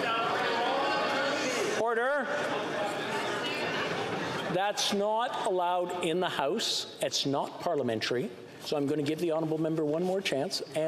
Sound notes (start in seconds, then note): 0.0 chatter